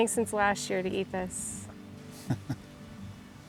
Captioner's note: laughing